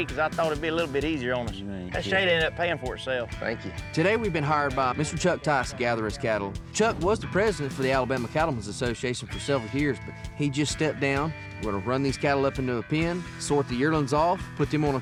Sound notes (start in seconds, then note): none